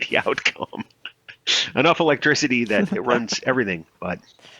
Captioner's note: laughs